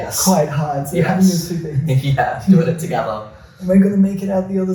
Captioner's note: laughs